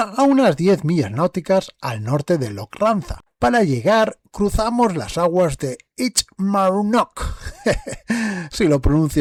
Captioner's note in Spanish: risas